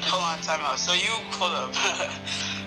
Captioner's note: laughs